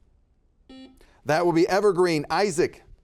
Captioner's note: buzzer beeping